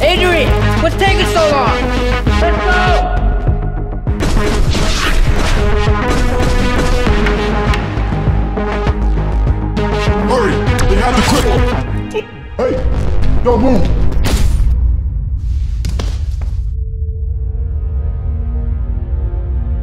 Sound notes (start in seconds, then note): 4.1 shots firing; 14.2 shot firing; 17.0 tense music